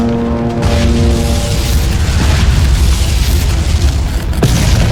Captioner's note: explosions booming